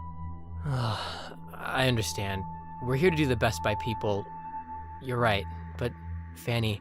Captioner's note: sigh